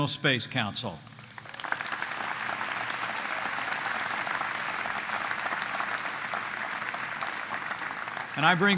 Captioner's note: applause